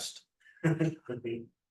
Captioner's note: laughter